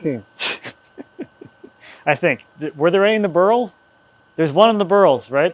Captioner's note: chuckles